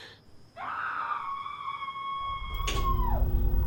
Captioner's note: screaming